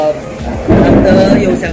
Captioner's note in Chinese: 雷声